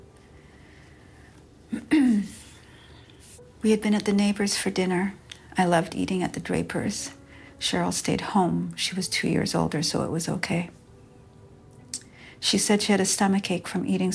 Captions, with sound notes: [sorrowful music] [clearing throat] We had been at the neighbors for dinner. I loved eating at the Draper's. Sheryl stayed home. She was two years older, so it was okay. She said she had a stomach ache from eating